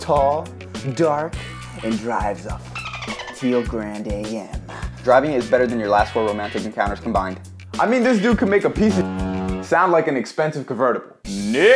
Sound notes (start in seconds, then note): 2.7 dolphin sounds; 9.0 foghorn blows